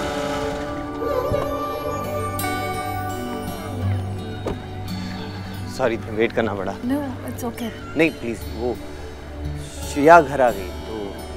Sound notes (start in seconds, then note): 1.2 Car door opens; 4.4 Car door closes